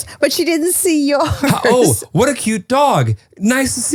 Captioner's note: laughs